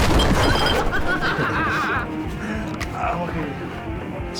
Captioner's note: laughing